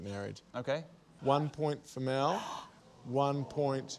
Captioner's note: gasps